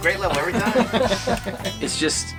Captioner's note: laughing